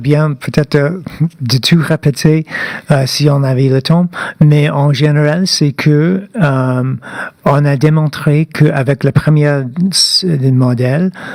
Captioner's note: speaking French